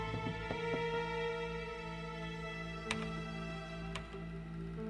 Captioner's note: keys clicking